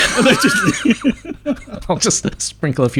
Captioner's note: laughing